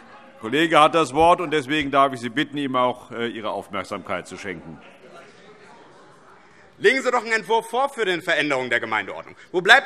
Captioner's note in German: none